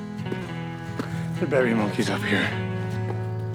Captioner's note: panting